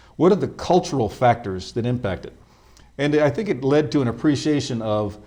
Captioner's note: none